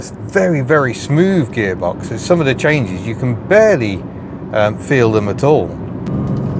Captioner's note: engine sounds; flat six engine noises